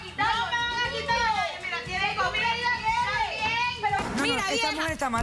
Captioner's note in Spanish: Discusión a gritos